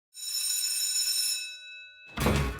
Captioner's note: school bell rings